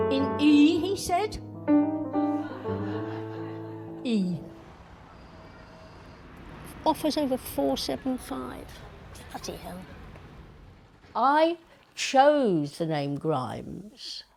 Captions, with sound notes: "In E?" he said. [laughter] "E." [traffic] Offers over 475. Bloody hell. I chose the name "Grimes"